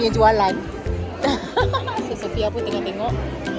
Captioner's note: laugh